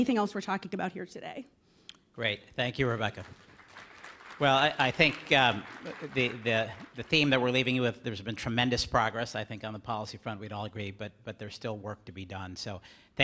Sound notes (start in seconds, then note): 2.7 applause